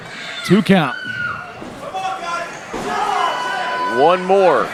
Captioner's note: audience yelling